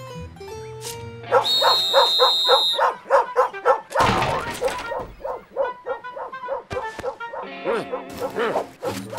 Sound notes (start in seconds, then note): 1.2 whistle blows, dog barking